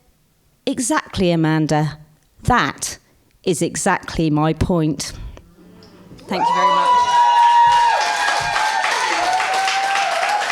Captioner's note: applause